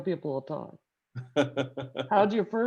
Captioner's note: laughing